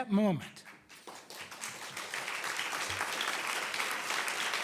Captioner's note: audience applauding